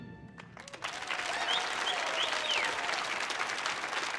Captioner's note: audience applauding